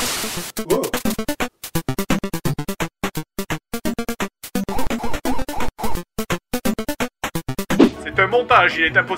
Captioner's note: 8 bits sound effects